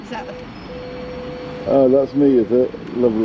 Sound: phone beeping

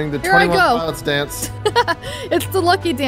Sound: chuckles

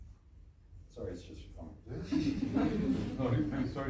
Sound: laughs

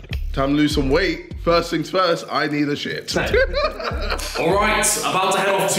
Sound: laughs

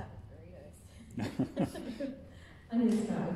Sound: audience laughing

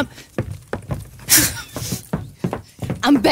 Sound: knocking

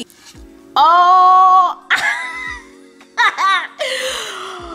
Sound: laughs

